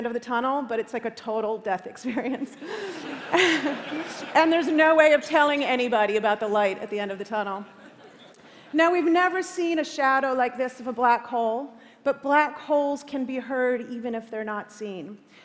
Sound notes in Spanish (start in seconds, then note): 2.0 Risas